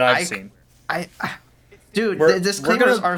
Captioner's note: speaks in disclaimer disbelief